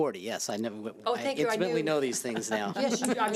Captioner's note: laughing